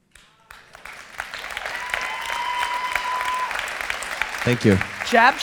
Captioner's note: audience applause